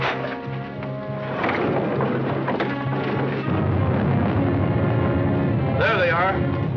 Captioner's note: whispering; doors opening